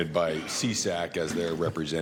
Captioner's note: laughter